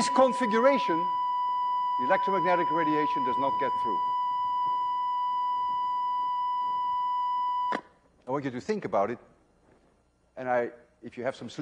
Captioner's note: tone stops